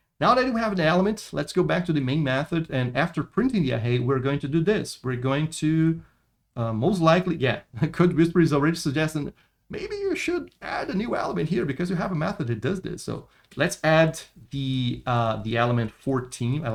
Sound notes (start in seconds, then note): 7.9 laughs